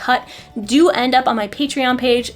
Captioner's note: none